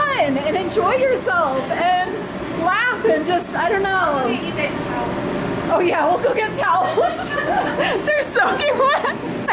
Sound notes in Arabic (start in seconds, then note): 6.9 يضحك